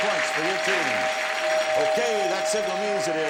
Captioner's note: bell rings